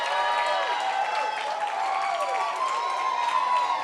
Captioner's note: cheering